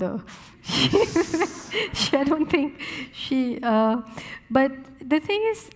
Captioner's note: laughing